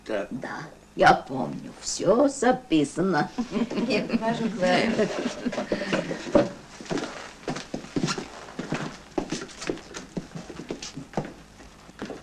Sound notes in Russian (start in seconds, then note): 3.3 смех